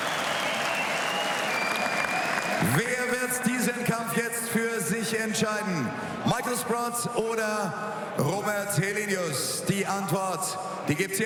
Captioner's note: cheers; applause